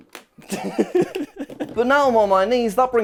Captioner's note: laughs